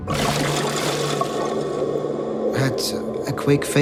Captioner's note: water splashing